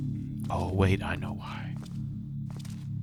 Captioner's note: whispers